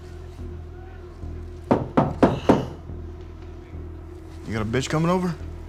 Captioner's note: door knocks